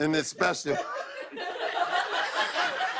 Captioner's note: laughter